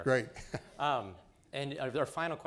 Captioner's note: laughing